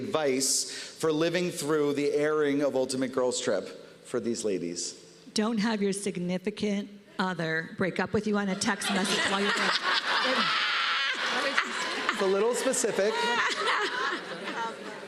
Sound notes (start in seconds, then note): 8.6 laughter